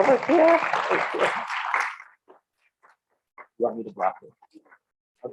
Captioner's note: audience clapping